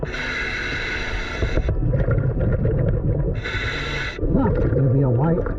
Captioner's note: breathing deeply